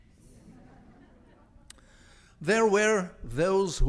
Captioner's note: audience laughs